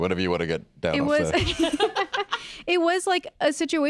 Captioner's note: laugh